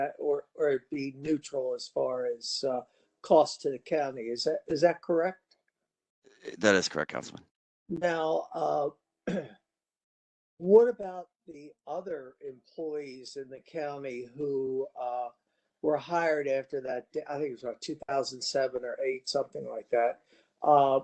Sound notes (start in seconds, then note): 9.2 cough